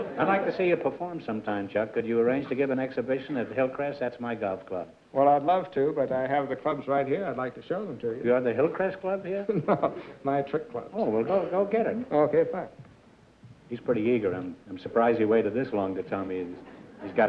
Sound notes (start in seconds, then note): 9.4 chuckles